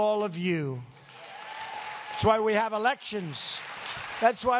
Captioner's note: applause